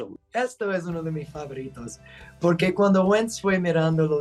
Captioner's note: speaking Spanish